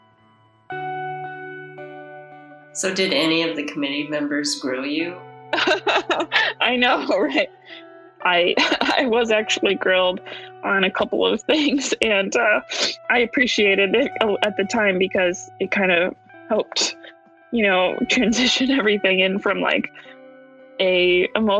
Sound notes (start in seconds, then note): 5.5 laughs